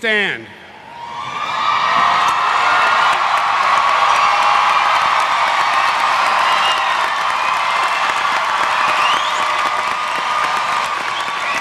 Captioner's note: cheering